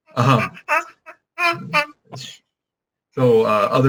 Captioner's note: baby laughing